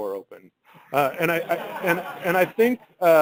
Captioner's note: laughter